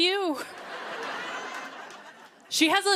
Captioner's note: laughter